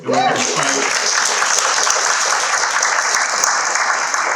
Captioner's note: people cheering